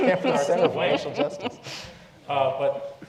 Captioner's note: laugh